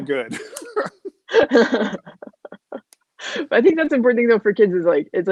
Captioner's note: laughing